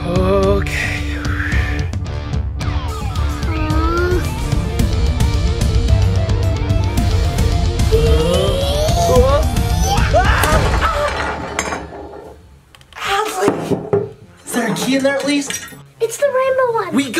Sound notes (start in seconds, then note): 0.0 intense music; 0.8 takes deep breath; 4.5 intense music continues; 9.7 screams; 10.1 smashing sound